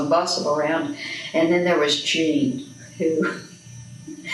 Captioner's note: laughs